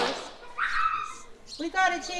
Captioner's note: horse passes gas; granddaughter laughs